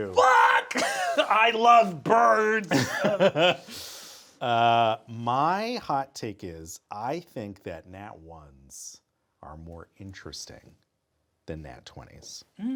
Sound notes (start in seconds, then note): 0.6 chuckles; 2.4 Sam laughing